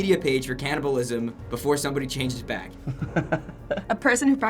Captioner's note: laughs